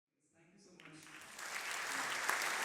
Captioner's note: applause